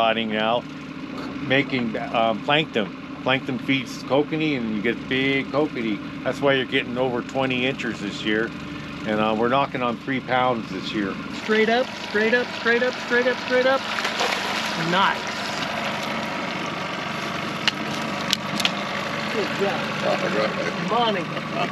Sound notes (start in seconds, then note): 11.8 fish spashing; 14.4 fish splashing; 16.8 fish thrashing; 21.2 chuckling